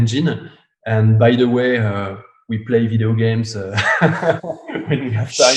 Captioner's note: laughs